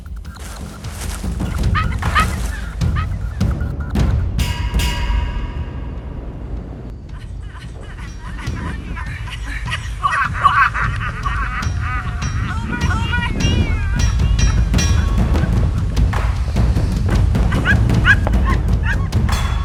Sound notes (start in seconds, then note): 2.2 supernatural sounds; 9.7 cackling; 13.2 ghostly Voice; 18.1 supernatural sounds